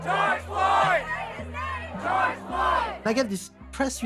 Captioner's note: chanting